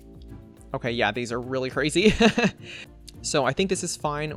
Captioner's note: laughs